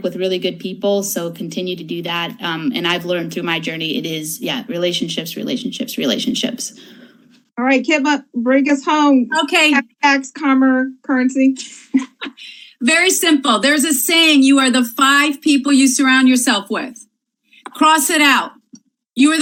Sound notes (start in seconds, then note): 11.6 laughs